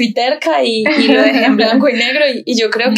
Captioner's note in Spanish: ríe